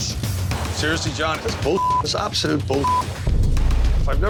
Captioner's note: beep